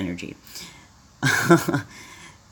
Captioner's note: laughs dryly